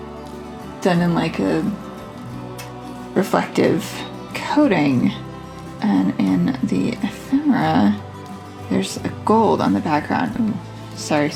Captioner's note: smacks lips